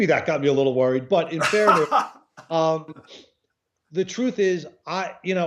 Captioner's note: laughs